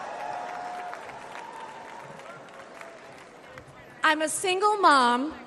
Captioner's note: crowd cheers